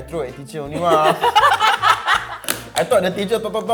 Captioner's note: all Laughing